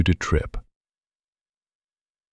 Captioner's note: long pause